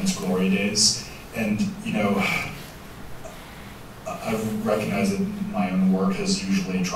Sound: sighs

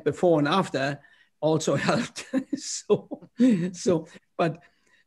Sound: laughter

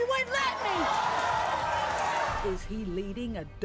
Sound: audience cheering

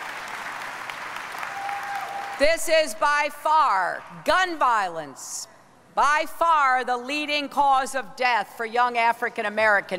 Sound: applause

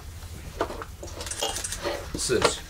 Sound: items clattering

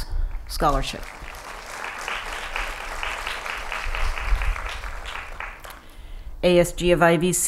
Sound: applause

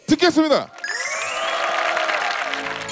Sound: applaud

